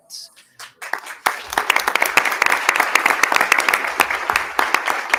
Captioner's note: attendees applauding